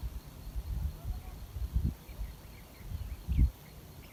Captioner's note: voices in background